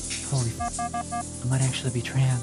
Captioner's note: beep